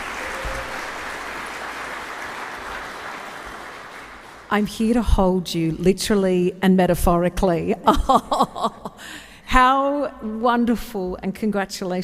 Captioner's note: applause